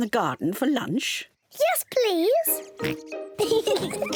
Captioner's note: oinks; both laugh